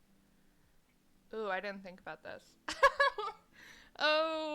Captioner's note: awkward "IDK what I'm doing" laughter